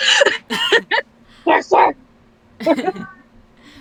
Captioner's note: laughs